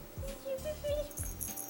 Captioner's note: babbling noises